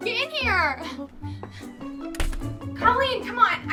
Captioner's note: door closes